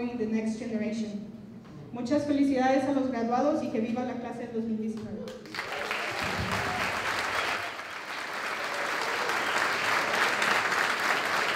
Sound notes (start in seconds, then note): 1.8 non-english speech; 5.2 applause